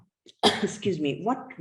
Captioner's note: coughs